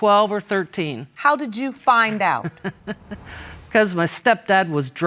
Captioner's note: laughs